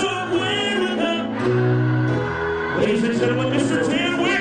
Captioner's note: crowd